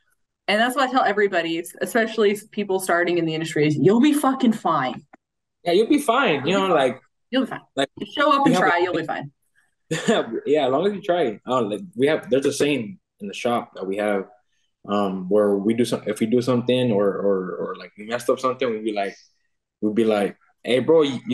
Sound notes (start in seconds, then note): 9.9 laughing